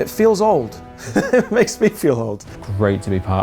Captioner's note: laughs